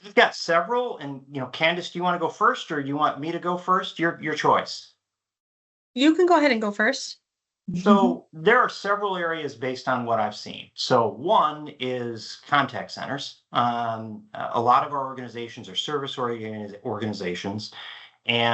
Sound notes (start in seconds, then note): 7.8 chuckles